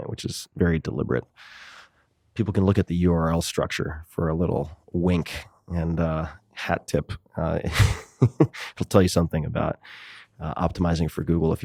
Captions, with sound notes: which is very deliberate. People can look at the URL structure for a little wink and a hat tip. [Tim Ferriss laughs] It'll tell you something about optimizing for Google.